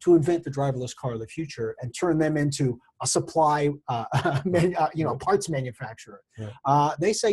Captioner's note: laugh